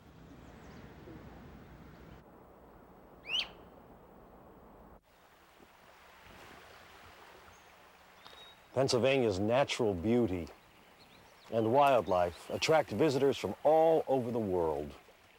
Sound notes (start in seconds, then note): 0.0 strong wind blowing; 3.2 bird chirping; 5.3 water flowing